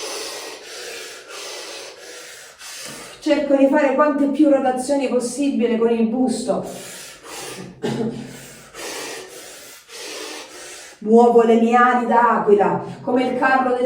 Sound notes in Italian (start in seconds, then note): 0.0 sbuffare; 7.5 schiarire la voce